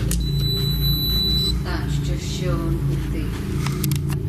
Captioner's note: beeping